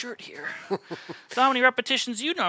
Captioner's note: laughs